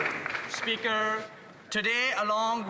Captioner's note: some Applause